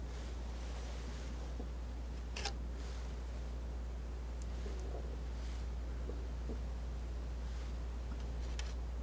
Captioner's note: tapping